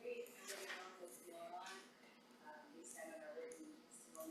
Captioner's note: mumbling